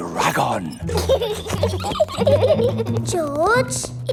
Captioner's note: both giggling